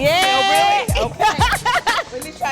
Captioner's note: chuckling